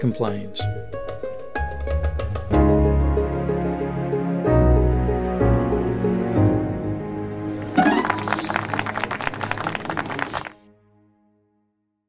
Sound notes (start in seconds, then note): 7.6 applause